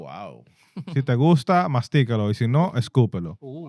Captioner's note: non-english Speech